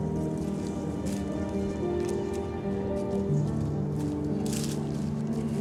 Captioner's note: pastor speaking faintly